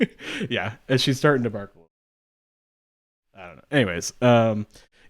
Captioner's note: audio cuts out